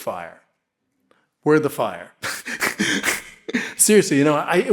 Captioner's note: laughs